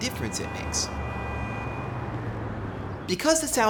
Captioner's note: muffled traffic noise